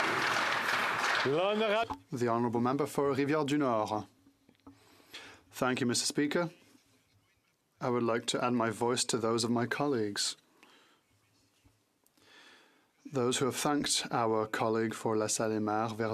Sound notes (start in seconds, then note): 0.0 applause; 4.0 speaking French